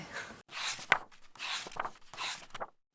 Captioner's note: pages turning